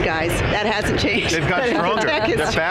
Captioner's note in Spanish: Risas